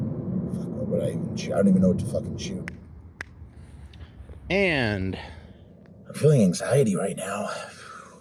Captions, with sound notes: Fuck, what would I even- I don't even know what to fucking shoot [Sync snapping of fingers] And... I’m feeling anxiety right now.